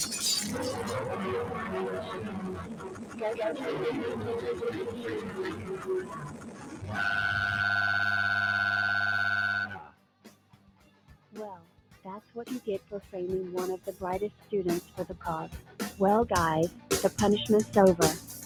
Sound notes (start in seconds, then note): 0.1 all shouts; 7.0 scratch cat cries